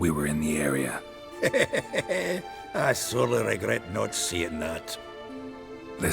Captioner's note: laughs